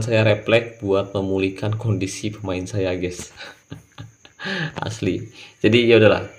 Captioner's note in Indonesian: tertawa